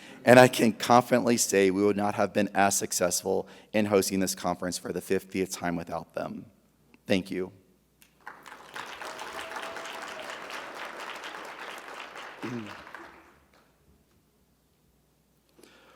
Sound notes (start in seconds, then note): 8.1 audience applauding; 8.2 audience cheering